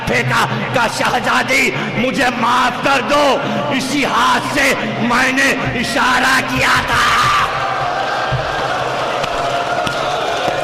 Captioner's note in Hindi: चीखने की आवाज़